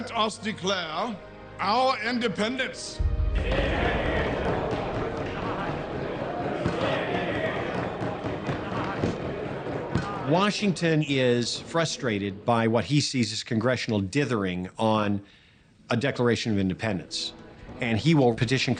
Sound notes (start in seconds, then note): 6.1 Congress shouting